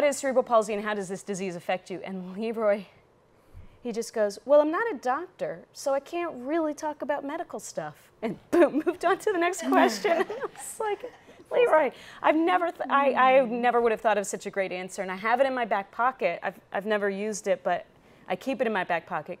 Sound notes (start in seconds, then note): 9.8 audience laughs